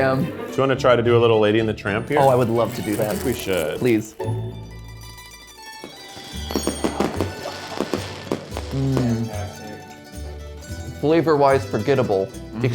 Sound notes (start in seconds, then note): 4.9 chill music; 5.6 fire crackers crackling and popping